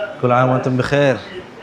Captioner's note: Arabic